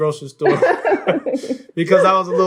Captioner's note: laughing